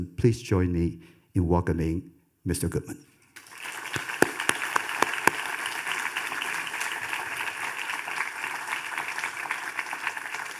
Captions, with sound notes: Please join me in welcoming Mr. Goodman. (audience applauding)